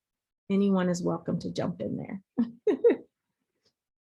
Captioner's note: chuckles